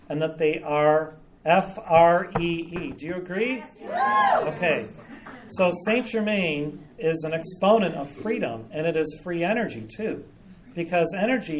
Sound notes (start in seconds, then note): 3.8 audience responds with cheers